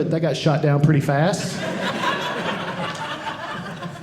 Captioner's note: audience laughing